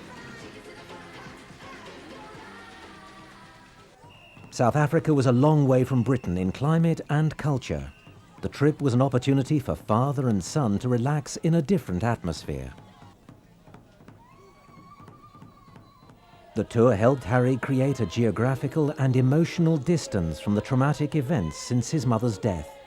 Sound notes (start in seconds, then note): 3.9 whistle tooting; 4.3 drums thudding